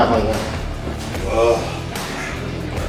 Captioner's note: spit